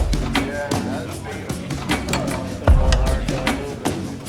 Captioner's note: group chattering